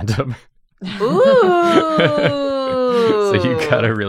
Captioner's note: laughs